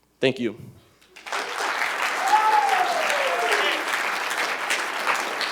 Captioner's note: cheers and applause